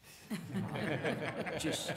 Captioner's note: laughter